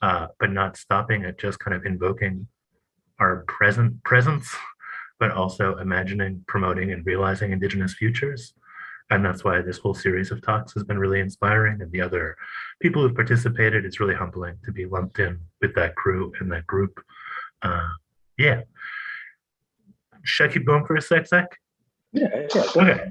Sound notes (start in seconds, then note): 19.9 non-english speech